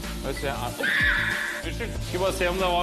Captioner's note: screams